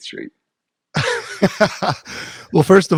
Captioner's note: laughs